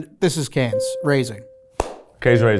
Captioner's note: bell ringing